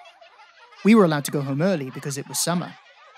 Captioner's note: seaside noises. laughter